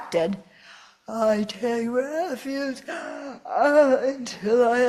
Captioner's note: yawn